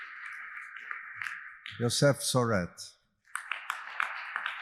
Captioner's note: audience applauding